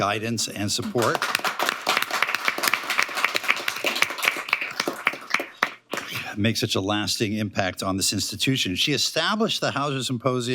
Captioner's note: applause